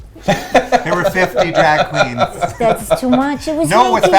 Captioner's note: laughing